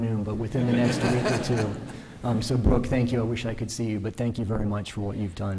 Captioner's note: laughter